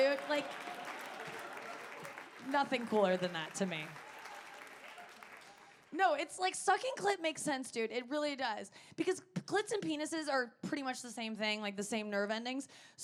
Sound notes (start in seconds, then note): 4.1 audience applauding